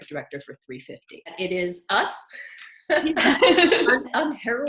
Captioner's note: both laughing